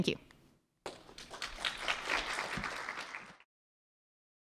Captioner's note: applause